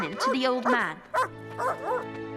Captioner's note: barking